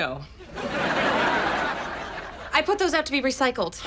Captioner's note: audience laughs